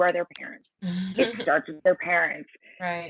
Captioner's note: laughing